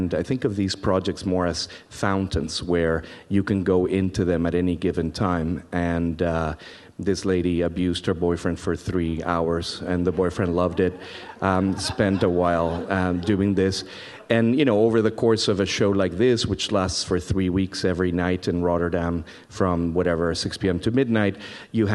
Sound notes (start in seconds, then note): 9.8 audience laughs